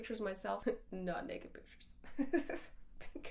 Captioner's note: laughs